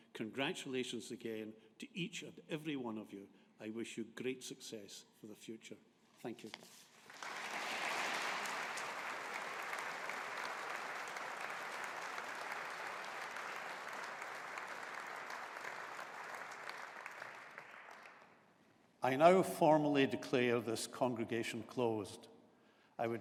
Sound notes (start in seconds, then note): 7.2 audience applauding